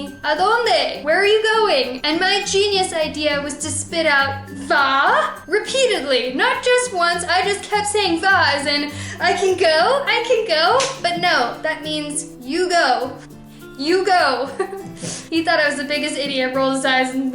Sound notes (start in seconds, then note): 14.5 laughter